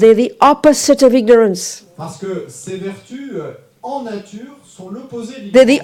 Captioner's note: French